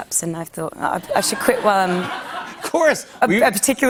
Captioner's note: laughter